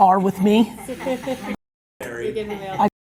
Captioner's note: laughing